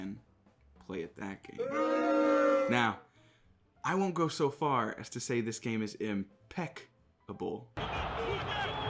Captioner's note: boo